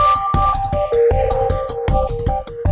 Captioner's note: ping sound